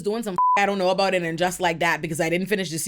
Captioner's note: beep